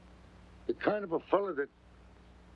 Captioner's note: none